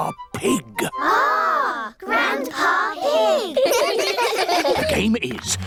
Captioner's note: giggling